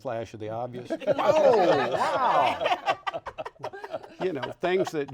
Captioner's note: all laughing